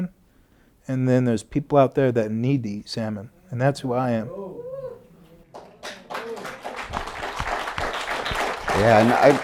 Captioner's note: applause